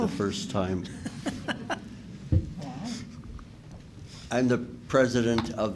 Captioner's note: laughing